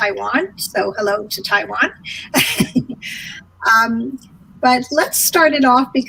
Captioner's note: laughing